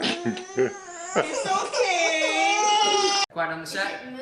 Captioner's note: child cries; chuckles